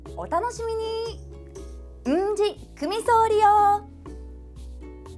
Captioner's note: in Okinawan